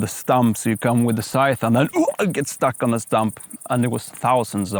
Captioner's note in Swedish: stånk